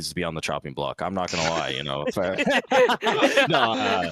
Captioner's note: laughing; laughs